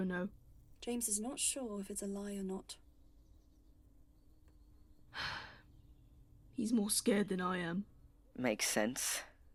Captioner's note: he sighs